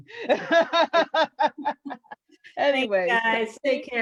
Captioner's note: laughs